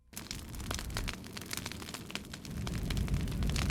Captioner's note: fire crackling